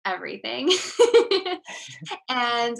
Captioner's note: laughing